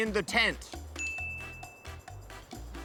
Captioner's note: ding!